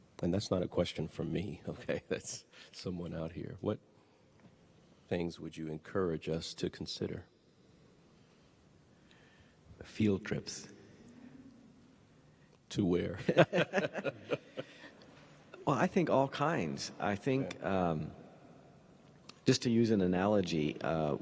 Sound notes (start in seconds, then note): 13.2 panelists laughing